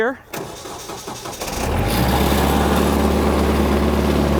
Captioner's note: engine starts